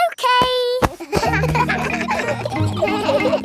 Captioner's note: kids laughing